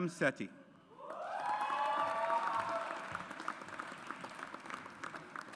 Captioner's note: audience applauds